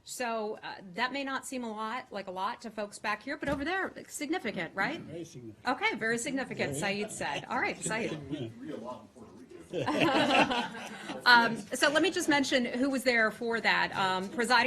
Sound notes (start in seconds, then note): 11.2 laughter